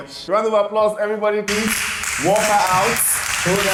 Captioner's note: clapping